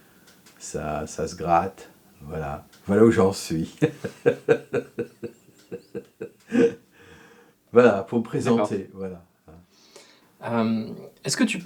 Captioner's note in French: rires